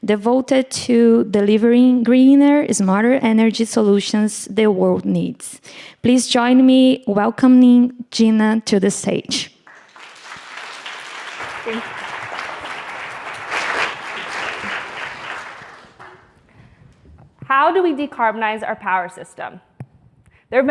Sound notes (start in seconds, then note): 9.6 audience clapping